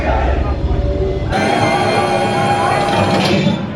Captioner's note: loud engine noises